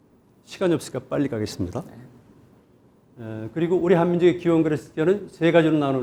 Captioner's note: speaking in Korean